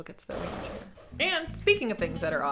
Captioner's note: wheels screeching